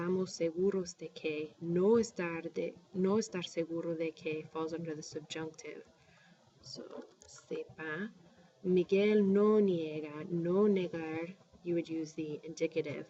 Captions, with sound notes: [speaking spanish] falls under the subjunctive. [speaking spanish] You would use the indicative.